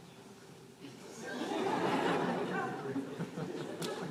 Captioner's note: laughter